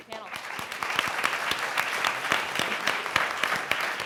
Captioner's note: audience applauding